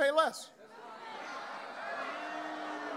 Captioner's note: crowd boos